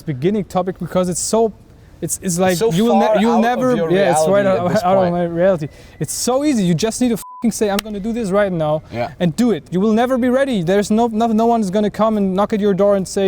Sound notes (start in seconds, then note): 8.3 beep